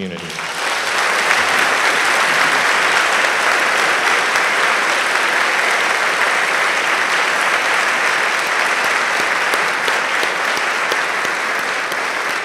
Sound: applause

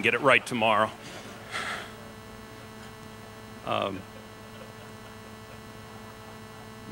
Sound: laughter

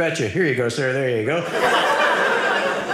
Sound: audience laughing

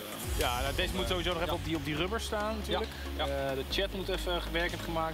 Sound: speaks in foreign language

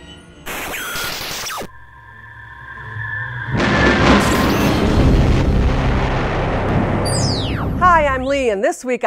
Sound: sound Effects

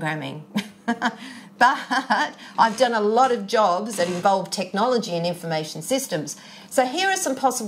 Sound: chuckles

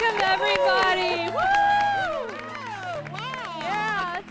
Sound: �applause�

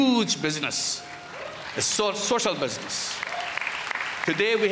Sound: applause

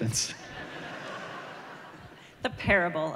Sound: laughter

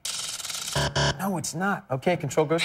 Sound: buzzer

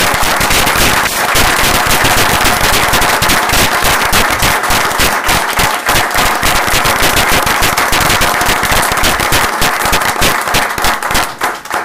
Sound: applause

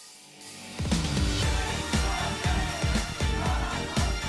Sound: fanchant

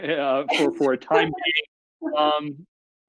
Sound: laughs

